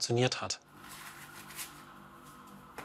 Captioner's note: low whirring of the device